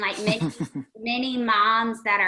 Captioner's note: laughing